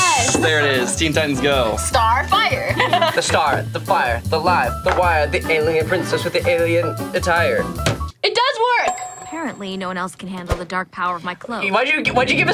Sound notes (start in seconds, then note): 2.6 laughs